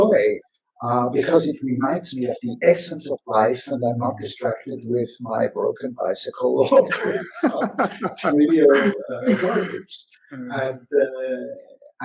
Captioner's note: laughter